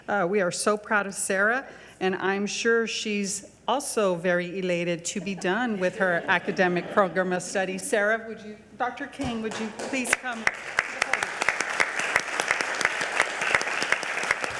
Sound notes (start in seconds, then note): 5.3 audience laughing; 10.0 audience applauding